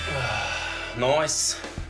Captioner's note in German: Seufzen